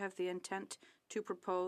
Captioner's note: speaking French